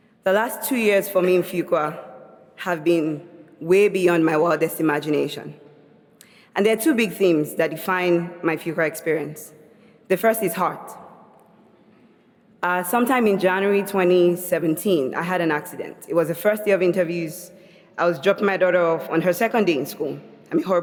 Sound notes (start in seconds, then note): none